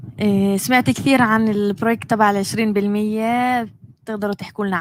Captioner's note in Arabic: لغة أجنبية